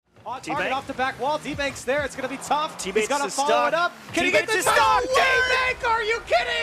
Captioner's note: game noises and commentators